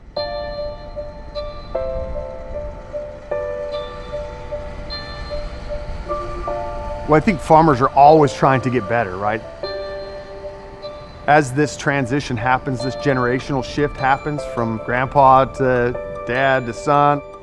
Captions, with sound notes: (light airy music) (tractor machine faintly rumbling) - Well I think farmers are always trying to get better, right? As this transition happens, this generational shift happens from grandpa, to dad, to son.